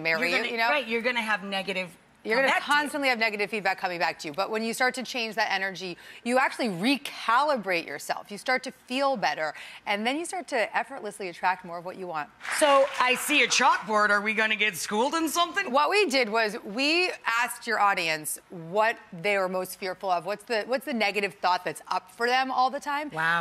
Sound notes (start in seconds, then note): 12.4 applauding